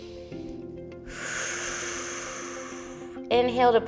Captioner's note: inhales; exhales